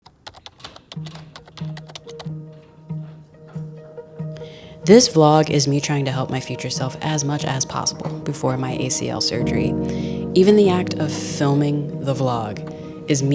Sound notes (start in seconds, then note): 0.0 intriguing orchestral music; 0.0 keyboard clacking